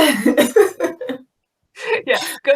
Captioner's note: laughing